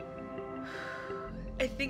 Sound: airy exhale

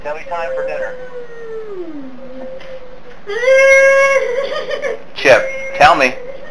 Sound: moaning and laughing

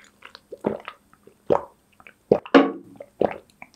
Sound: gulping

